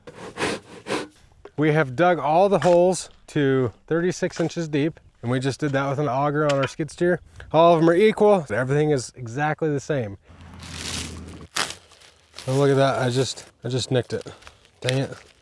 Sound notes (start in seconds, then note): 10.3 wrapping crunches off